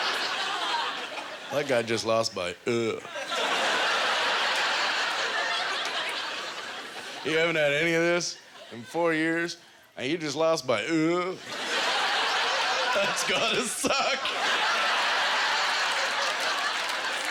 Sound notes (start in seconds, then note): 0.3 audience laughter; 11.4 audience laughter